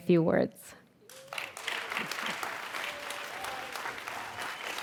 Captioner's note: audience applauds